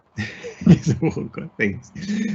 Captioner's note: chuckles